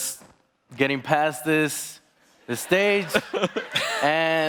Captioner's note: laughing